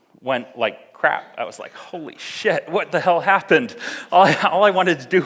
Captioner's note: laughs